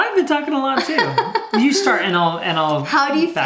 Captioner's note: laughs